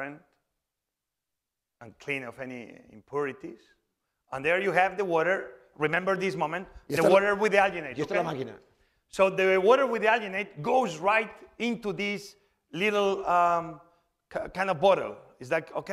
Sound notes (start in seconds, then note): 8.3 speaking spanish